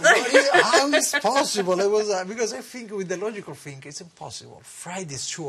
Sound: laughter

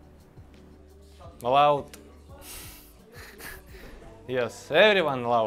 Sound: laughs

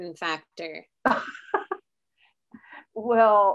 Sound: laughs

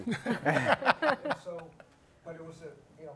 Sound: panelists laugh

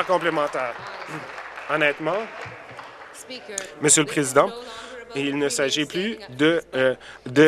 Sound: applause

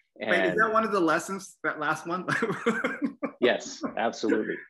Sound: laugh

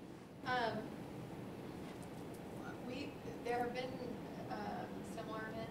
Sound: voiceover

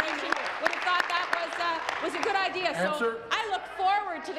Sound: applause

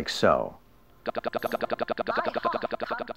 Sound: Electronic voice

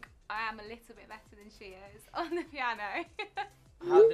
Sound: laughs

